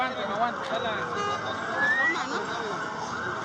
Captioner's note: sirens and sounds of emergency cars